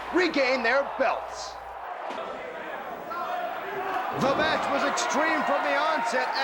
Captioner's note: crowd chatter